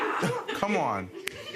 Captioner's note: audience laughing